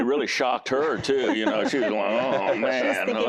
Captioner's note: laughing